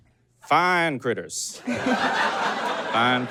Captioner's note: audience laughs uproariously